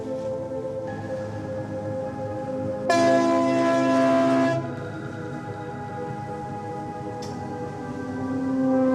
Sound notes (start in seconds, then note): 2.9 horn bellowing